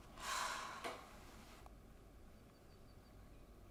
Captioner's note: sighs